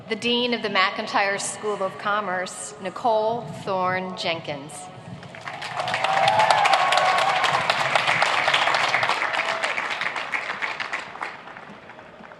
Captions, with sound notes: - The dean of the McIntire School of Commerce, Nicole Thorne Jenkins. (applauding)